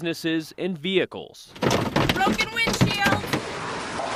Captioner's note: hail thumps car